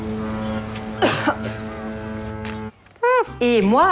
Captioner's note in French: Sirène du bateau